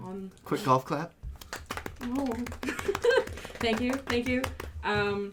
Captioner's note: gentle clapping, gives a small flattered "oh..." and laughs